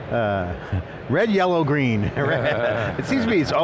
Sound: he laughs

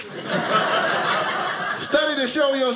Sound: audience laughing

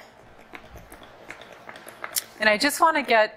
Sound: paintbrush clicking

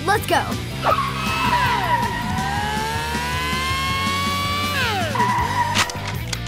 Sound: engines whirring; tires screeching

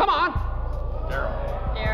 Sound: oohing

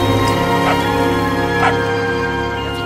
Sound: barking

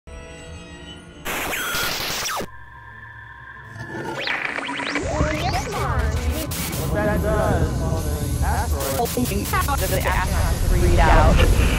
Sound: sound Effects

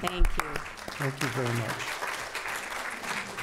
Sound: applause

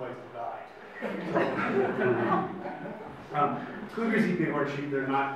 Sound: audience laughs

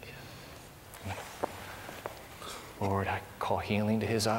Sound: whispering

